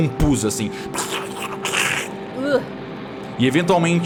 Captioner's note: plurg plurg plurg